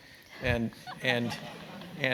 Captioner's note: laugh